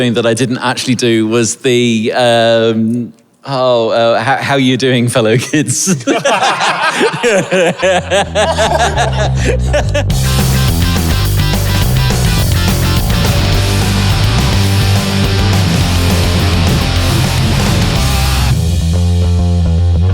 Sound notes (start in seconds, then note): 5.9 group laughing; 10.1 upbeat rock music